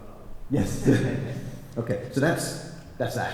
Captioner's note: laughs